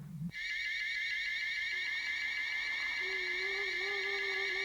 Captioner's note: crystal whirring